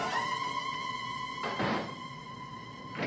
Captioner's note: door slamming